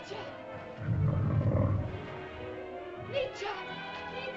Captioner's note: suspenseful music; dinosaur growls; suspenseful music